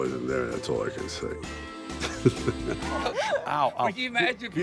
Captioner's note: laughs